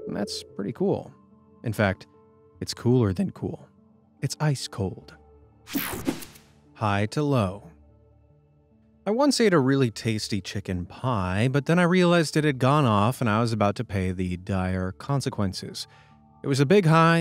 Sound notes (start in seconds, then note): 5.7 image whooshing